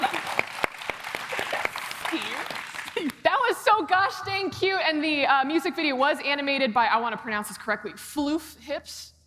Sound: applause

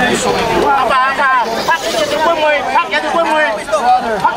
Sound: crowd chattering

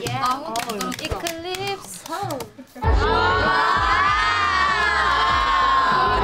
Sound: all exclaim

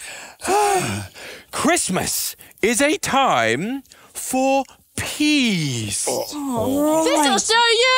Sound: Percival sighing

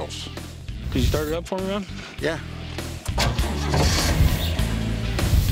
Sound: engine turns over

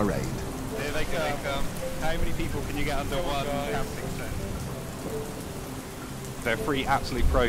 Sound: voices

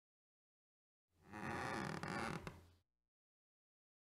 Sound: sound of floor squeak

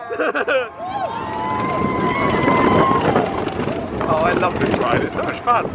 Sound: laughs; people shouting

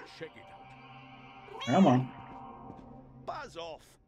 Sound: Hodge meows

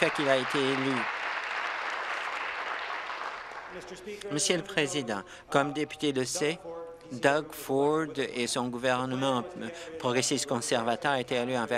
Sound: applause

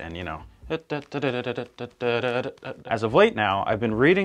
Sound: humming

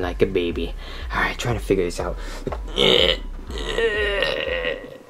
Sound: grunts

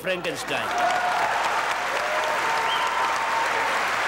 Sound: audience applauding

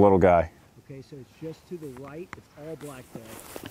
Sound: voiceover

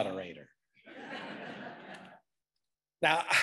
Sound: audience laughing

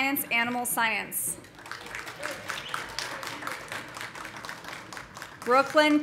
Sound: audience applauding; audience cheering

